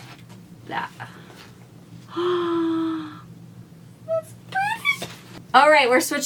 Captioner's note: gasp